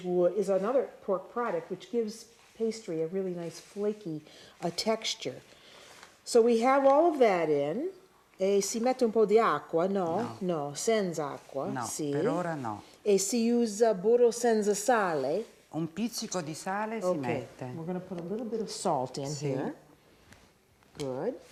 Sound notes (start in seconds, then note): 8.8 speaking Italian